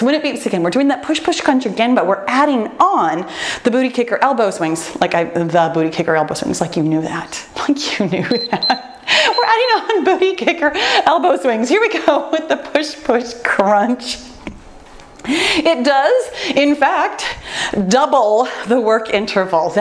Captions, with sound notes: When it beeps again, we're doing that push push crunch again, but we're adding on the booty kicker elbow swings like the booty kick elbows, it's like you knew that. (timer beeps) Think you knew that. (laughs) You know booty kicker, elbow swings. Here we go with the push push crunch! It does, in fact, double the work intervals.